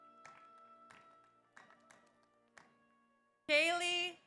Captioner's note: audience applauds